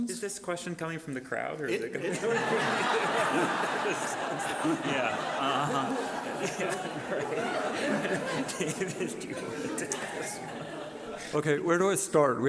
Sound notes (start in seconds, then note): 3.3 audience laughing; 7.2 laughing